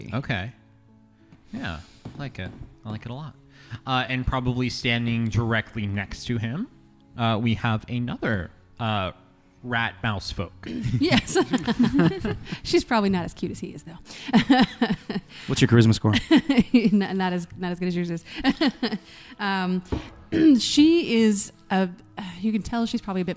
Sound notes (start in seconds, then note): 10.7 laughs; 14.4 laughs; 18.2 laughing